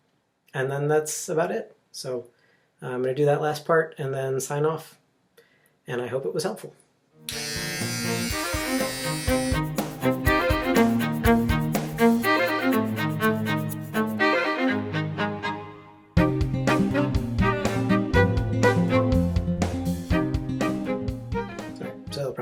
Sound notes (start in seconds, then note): 7.2 razor buzzing; 8.2 chill guitar music